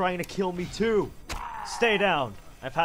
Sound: zombie groans

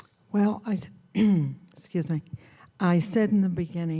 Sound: clearing throat

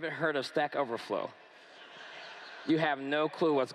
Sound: laughter

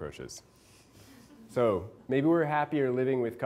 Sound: class laughing

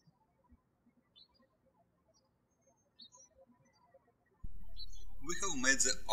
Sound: birds chirping

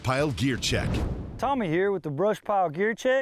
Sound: air whooshing

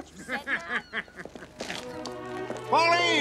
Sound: Washburn laughing

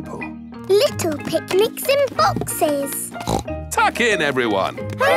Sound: snorts

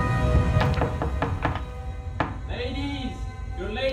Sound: knocking on door

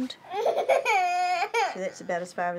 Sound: cries

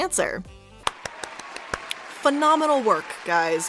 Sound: applauding

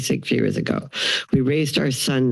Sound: inhales

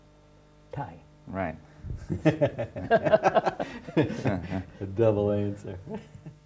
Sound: laughter

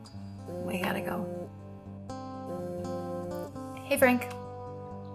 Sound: phone buzzing

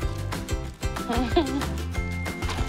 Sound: chuckles

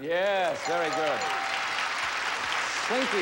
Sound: audience applauding

